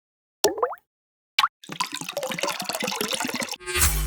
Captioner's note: water sloshing